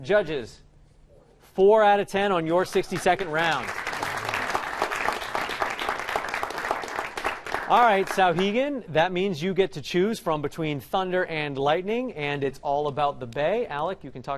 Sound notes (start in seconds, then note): 2.7 applause